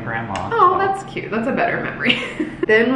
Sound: laughs

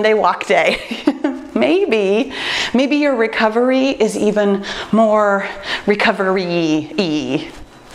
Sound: laughs

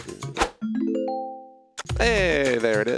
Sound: successful ring

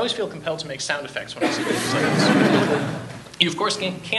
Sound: audience laughs

